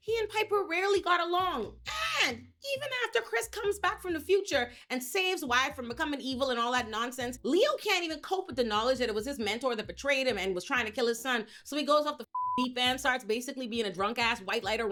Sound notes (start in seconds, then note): 12.3 beep